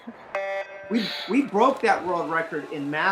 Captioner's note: laughs; swimming starter gun buzzes